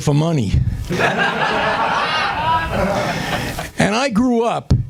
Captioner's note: laughter